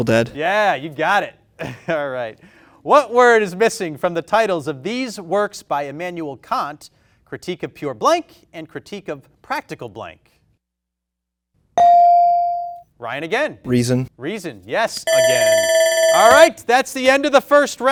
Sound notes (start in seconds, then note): 11.8 bell dings; 15.0 timer buzzing